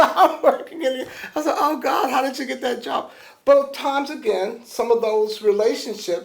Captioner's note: laughs